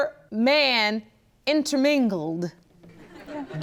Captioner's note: audience laughs